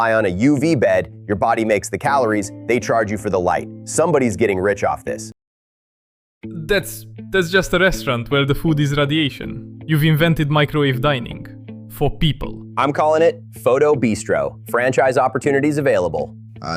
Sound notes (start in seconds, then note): 6.7 stammers; 7.2 excited; 13.1 playfully